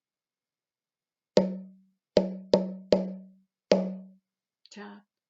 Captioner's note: tap - tap tap - tap - tap